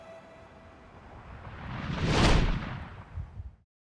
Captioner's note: whooshing